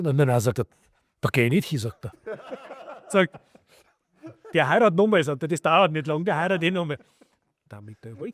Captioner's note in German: gelächter